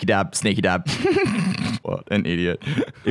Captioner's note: laughing